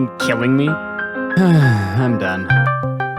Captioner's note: sigh